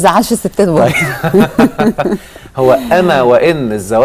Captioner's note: laughs!